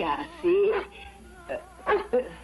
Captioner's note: dog barking